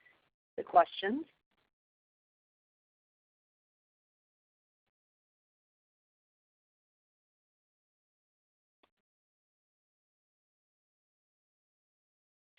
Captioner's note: silence